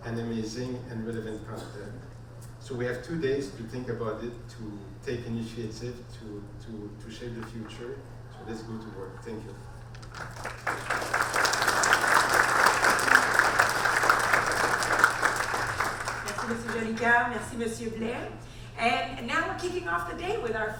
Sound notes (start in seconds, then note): 10.0 audience applaud